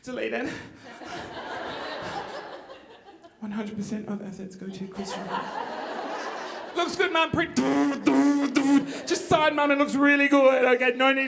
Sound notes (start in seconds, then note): 0.9 audience laughing; 7.8 imitates machine whirring